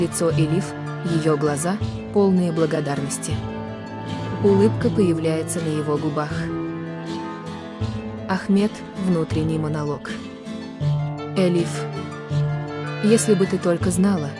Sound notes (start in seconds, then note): 7.8 internal monologue